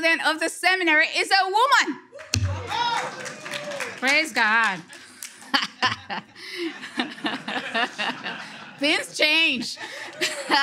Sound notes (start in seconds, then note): 2.1 audience clapping/cheering; 5.5 speaker laughing